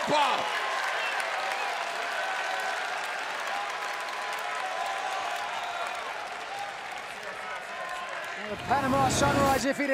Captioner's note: crowd cheering